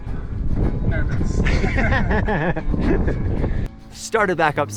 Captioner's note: laughing